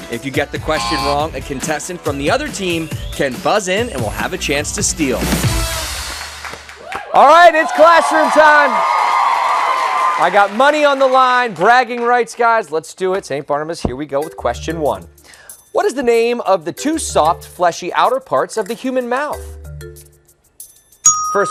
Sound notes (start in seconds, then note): 8.5 cheers and applause